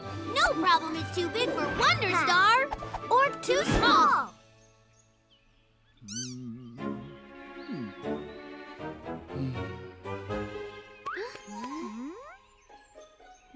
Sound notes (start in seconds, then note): 6.0 squeaks; 6.0 humming